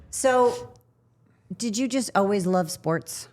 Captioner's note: none